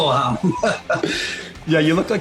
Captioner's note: laughs